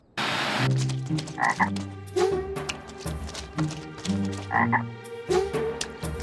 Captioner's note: croaks